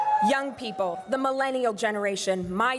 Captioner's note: crowd cheering and applauding